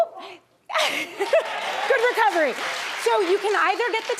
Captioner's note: laughs